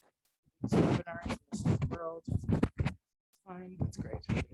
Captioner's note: mic rustling